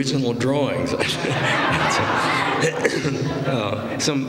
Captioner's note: laughter